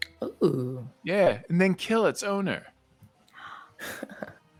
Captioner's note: gasps; laughs